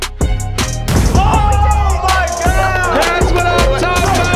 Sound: crowd cheering

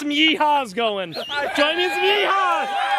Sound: whistles, cheers and laughs

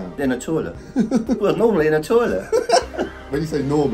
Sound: host laughing

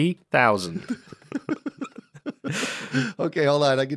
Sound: laughs

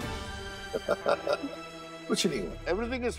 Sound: laughing

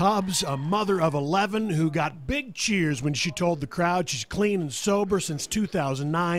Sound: cheers and applause

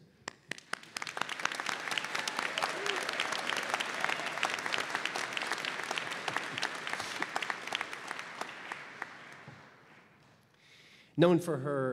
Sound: applause

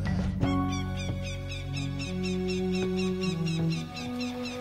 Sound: eagles piping

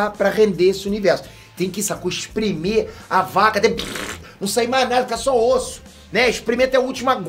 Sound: squeezing sound

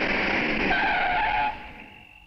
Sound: brakes squeal

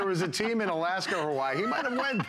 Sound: laughter

